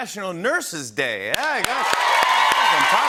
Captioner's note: cheering and applause